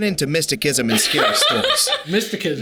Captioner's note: Sadie laughing